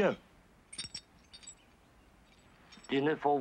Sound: chains rattle

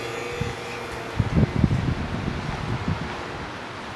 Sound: wind blowing

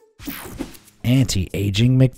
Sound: image whooshing

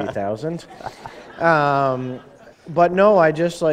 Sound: chuckle

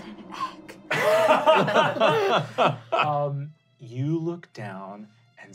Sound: laughing

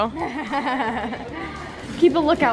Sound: laughing

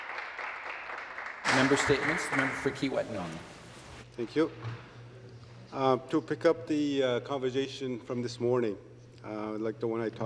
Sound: applause

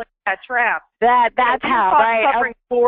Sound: voiceover

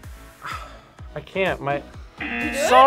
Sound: sighs; buzzer

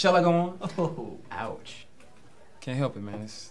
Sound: Adam laughs

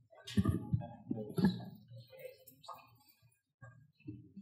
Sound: mumbles

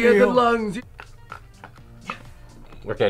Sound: laughs; cigarette crunching

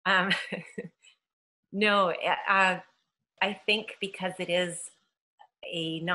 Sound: laughs

